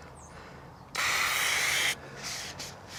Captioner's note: spraying